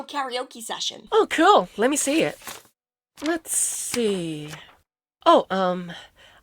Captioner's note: leafing through papers